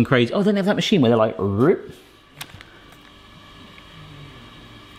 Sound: imitates machine

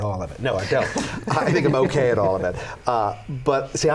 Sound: laughter

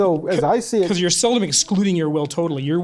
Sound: voiceover

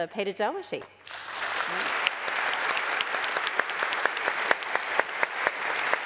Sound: applause

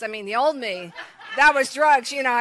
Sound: congregation laughs

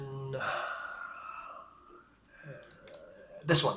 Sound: mouse clicking

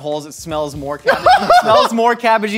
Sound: laughs uproariously

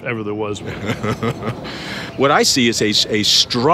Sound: laughs

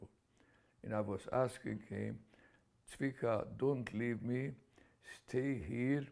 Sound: non-english

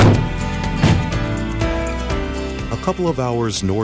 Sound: car doors closing

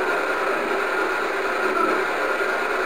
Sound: white noise

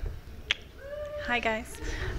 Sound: cheering

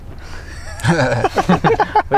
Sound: laughing

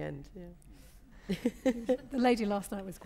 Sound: laughs

